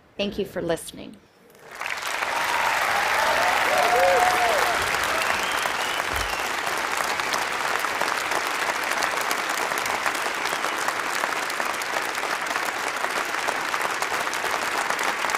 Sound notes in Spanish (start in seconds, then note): 1.5 Aplausos